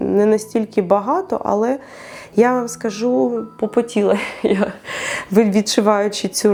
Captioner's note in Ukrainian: сміх